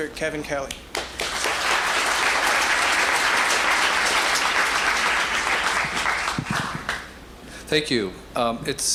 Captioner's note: applause